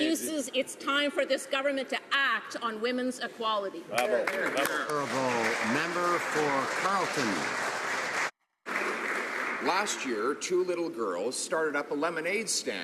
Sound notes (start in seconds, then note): 8.5 some Applause